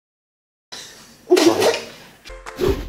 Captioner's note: laugh